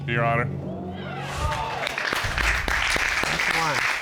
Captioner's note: applause